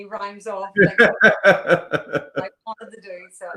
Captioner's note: laughing